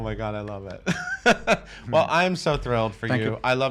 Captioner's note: laughing